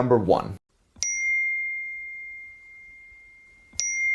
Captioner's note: pinging